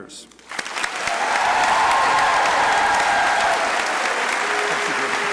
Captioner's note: crowd cheering and applauding